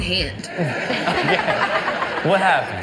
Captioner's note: laughing and giggling